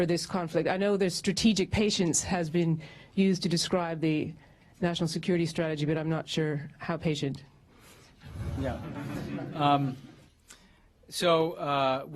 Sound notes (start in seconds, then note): 8.7 laughter